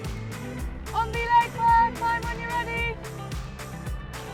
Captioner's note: shouts